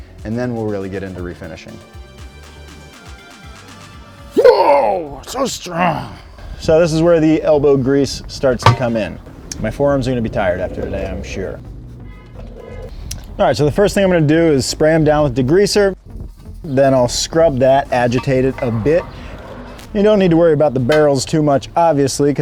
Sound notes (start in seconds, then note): 5.7 grunting